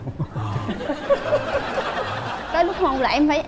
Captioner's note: laughing